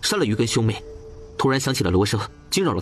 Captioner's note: gong